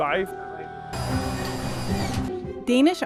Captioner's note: saws whir